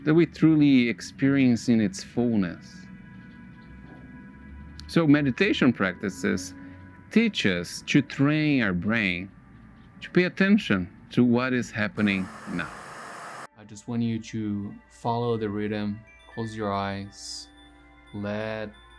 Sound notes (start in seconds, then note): 12.0 static buzzing; 17.4 gentle music